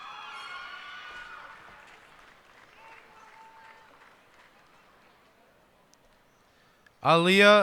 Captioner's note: cheers and applause